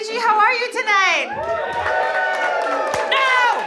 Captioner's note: audience cheering